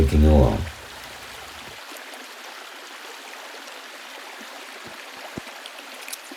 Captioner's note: river flowing downstream